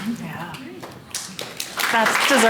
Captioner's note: audience clapping